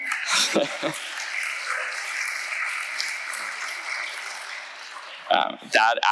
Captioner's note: chuckles; audience applauding